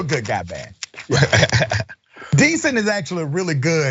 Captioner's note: laugh